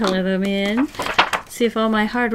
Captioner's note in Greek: Κούνημα χαρτιού